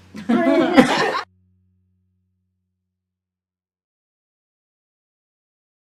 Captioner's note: laugh